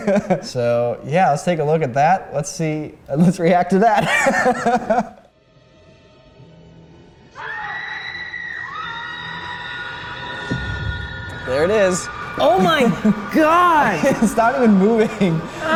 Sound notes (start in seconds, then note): 7.3 movie screaming; 15.0 laughing